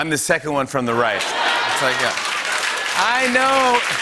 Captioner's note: laughter and applause